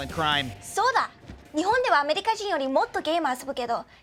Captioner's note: speaking Japanese